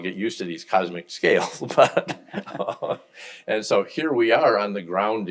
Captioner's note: laughs